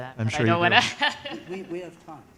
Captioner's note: laughs